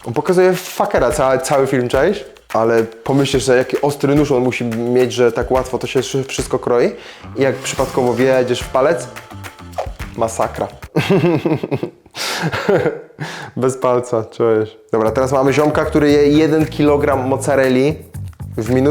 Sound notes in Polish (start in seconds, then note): 10.9 śmiech; 12.2 parsknięcie